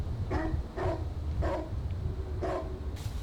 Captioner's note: dog barking